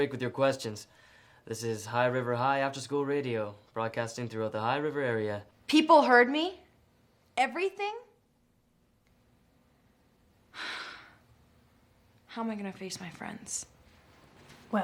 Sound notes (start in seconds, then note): 10.5 Taylor sighs